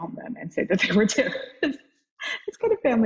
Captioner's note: laughs